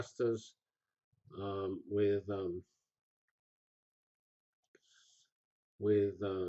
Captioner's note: pause